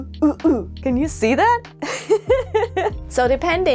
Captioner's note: laugh